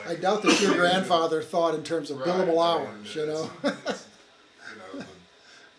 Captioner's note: chuckles